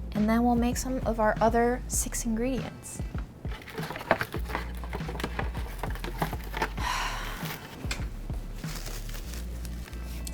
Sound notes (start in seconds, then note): 3.8 gentle instrumental music; 6.6 sighing